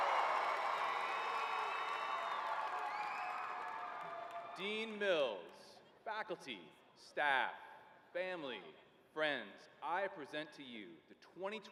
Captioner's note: cheering